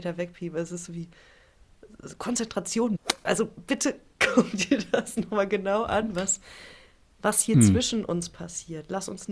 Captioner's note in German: gelächter